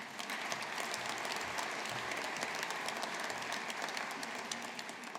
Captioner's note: audience applauding